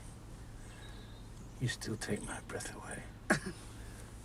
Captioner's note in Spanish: risas